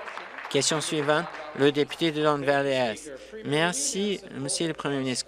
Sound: applause

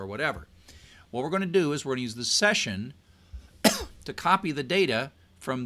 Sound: cough

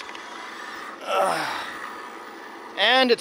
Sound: sighs

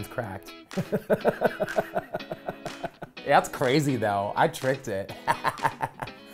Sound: laugh

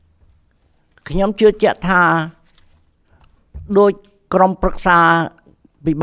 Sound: speaks in Khmer language

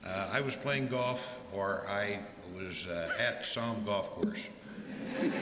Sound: laughter

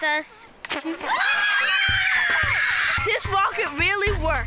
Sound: kids cheering

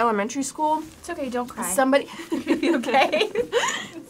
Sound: laughs

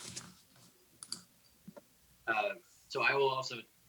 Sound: mouse clicks

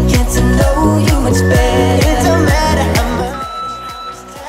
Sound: alarm beeping

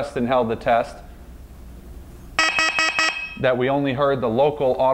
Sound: alarm beeps

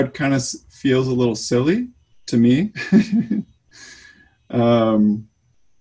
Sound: giggles

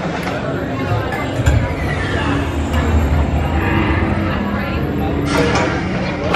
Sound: ride whines and swooshes; laughs

